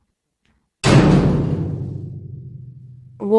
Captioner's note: cell door slamming